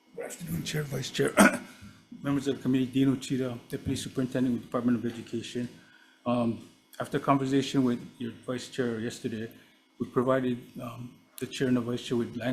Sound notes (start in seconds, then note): 1.3 clears throat